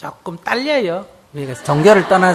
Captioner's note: audience Laughter